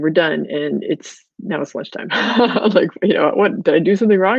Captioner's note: laughs